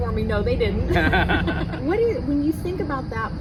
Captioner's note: laughing